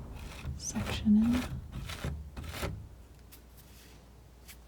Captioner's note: scratching